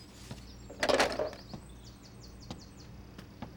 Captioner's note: hangs up telephone